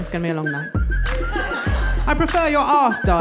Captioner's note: crowd laughing